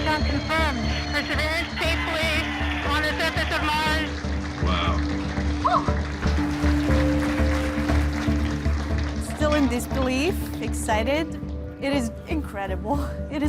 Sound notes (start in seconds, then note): 4.6 cheering, continues